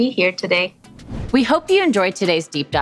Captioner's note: whoosh